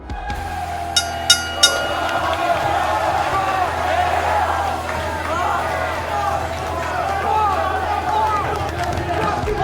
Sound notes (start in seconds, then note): 0.0 crowd cheering; 1.0 bell rings three times; 1.7 crowd chanting